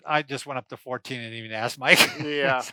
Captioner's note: laughs